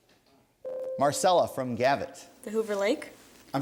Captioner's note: ding